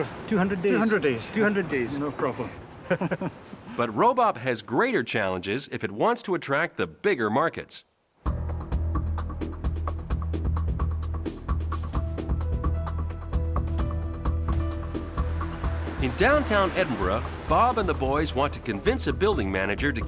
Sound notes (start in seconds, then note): 2.8 both laugh; 8.3 pensive music